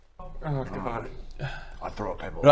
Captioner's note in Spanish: suspiro